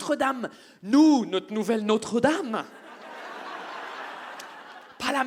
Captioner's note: audience laughs